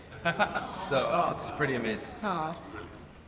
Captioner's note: laughs